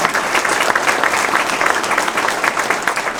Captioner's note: applause